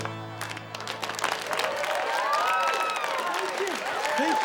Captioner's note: lively dance music; students cheer